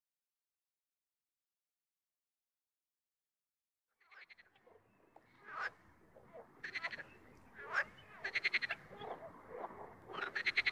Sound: sound of screaming frogs

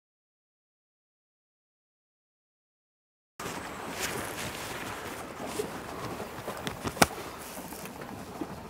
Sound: soft rustling

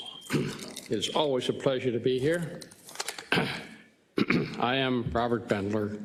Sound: cough

